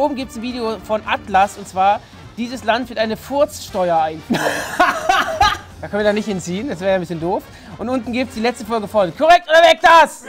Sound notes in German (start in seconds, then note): 4.3 Auflachen